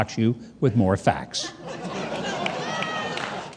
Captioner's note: audience laughing